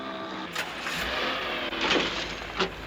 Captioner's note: car engine starts